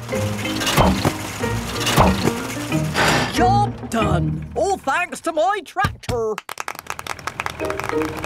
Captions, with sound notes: - Job done! All thanks to my tractor. (clapping)